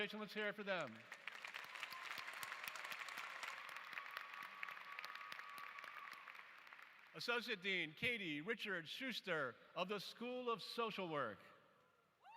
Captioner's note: applause